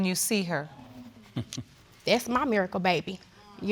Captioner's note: chuckles